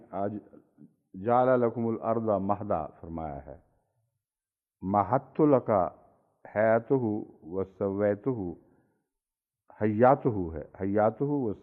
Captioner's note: Arabic